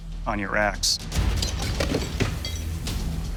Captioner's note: ice shattering